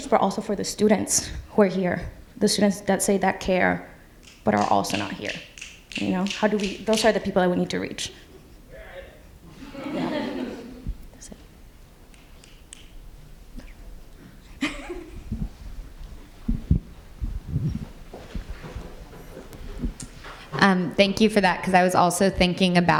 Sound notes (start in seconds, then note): 9.5 audience laughs; 14.6 laughs